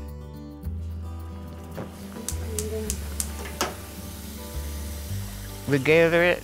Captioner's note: stove burner clicking, water running